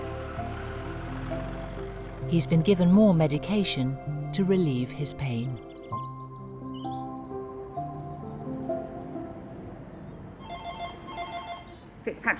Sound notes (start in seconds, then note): 0.2 somber music; 4.6 birds chirping; 6.1 somber music; 10.4 phone ringing